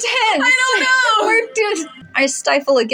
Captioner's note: chuckle; stutter